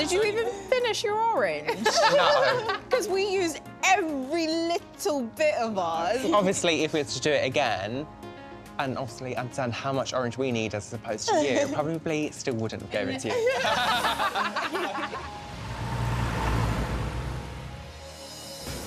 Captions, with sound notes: Did you even finish your orange? No. ‘Cause we used every little bit of ours. Obviously if we had to do it again, and obviously understand how much orange we need as opposed to you, we probably still wouldn't give it to you. (laughter)